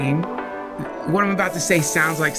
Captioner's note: sizzle